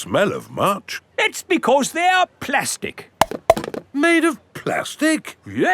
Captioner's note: clunks